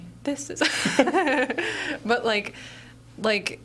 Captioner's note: laughing